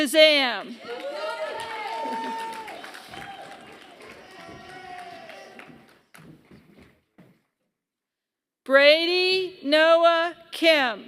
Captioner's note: applause